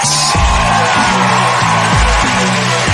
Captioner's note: crowd cheering